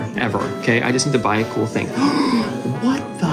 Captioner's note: gasps